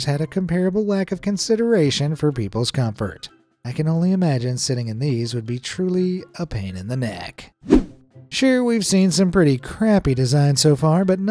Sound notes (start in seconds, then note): 7.6 screen wipe whooshes